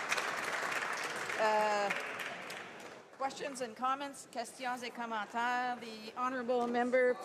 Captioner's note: some Applause